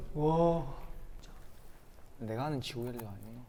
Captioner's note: Crunch